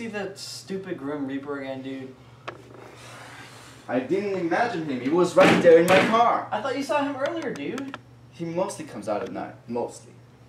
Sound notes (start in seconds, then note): 5.4 bangs hand on table